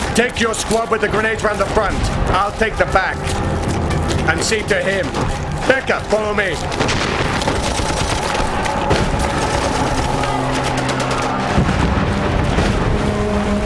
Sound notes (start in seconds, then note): 9.4 guns firing